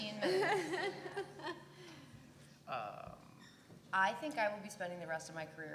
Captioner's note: laugh